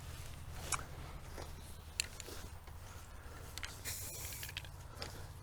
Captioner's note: paint sprays from can